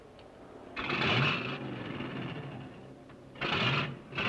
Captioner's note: engine revving